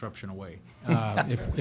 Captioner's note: laughter